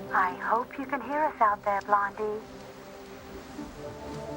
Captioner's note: Ava On Radio